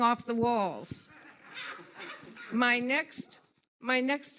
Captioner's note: audience laughs